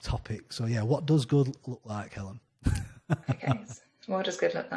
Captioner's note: laughs